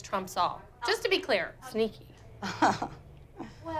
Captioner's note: laughs